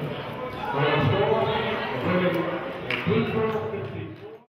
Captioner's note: murmurs